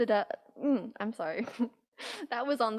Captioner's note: laughs